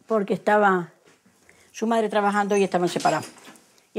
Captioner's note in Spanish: suena la puerta